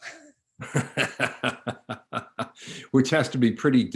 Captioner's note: chuckles